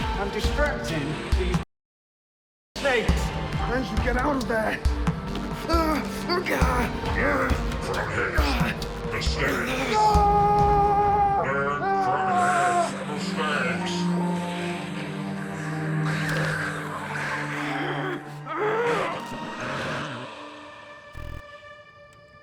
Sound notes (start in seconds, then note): 9.5 Tony screaming; 14.2 dramatic music